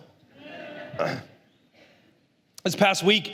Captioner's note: la congregación se ríe